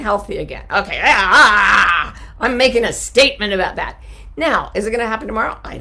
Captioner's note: growls